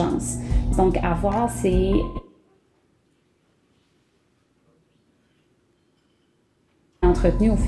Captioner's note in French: coupure de son